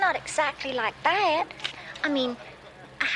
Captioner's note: laughing